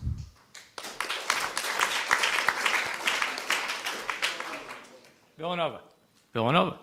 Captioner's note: applause